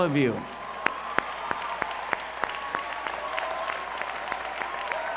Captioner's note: cheers